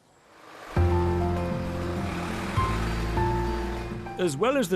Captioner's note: van engine roaring; gentle piano music